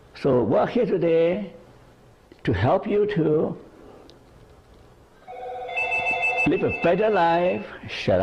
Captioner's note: phone ringing